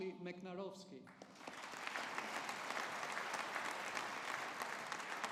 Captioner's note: audience applauding